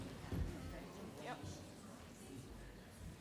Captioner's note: none